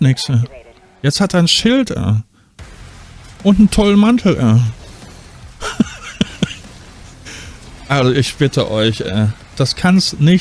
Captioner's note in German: gelächter